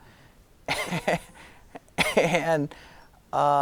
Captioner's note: giggling